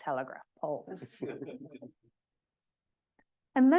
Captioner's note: audience chuckles